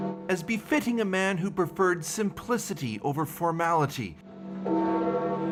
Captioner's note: bells tolling